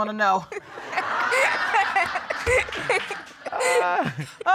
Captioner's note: all laughing